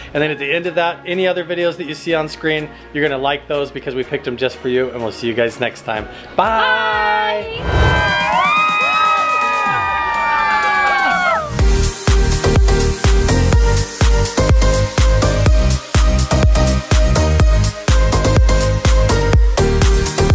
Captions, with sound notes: And then at the end of that, any other videos that you see on screen you're gonna like those, because we picked them just for you and we'll see you guys next time. - Byeeee! - Byeeee! (everyone whooping) (upbeat music)